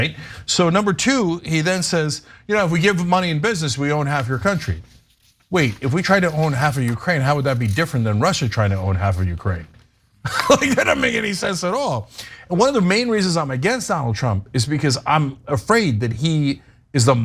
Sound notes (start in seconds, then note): 10.2 laugh